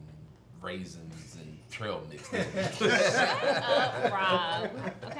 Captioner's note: family laughing